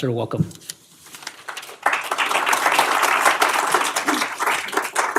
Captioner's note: applause